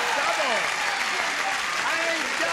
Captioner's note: cheering